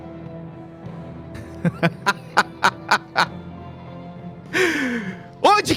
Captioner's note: Joui laughs